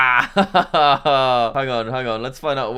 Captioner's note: laughs